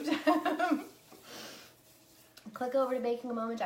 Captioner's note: laughs